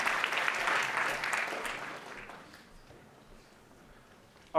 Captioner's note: applause